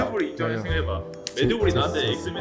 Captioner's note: speaking passionately